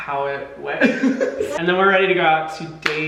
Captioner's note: Hyram giggling